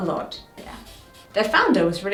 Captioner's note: pointer scraping